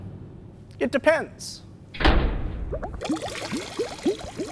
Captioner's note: thud, bubbling sounds